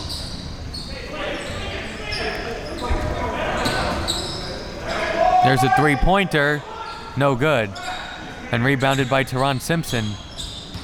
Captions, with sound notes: (audience chattering and yelling) There's the three-pointer, no good, and rebounded by Teron Simpson.